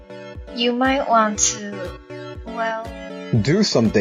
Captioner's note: none